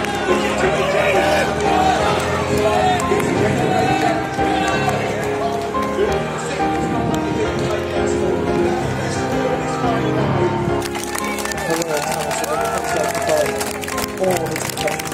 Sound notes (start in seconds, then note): 10.7 crowd Applauds